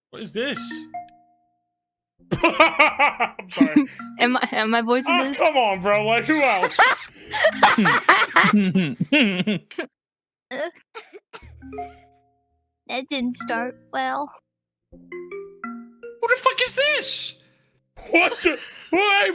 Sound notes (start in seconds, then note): 2.3 laughs; 6.2 laugh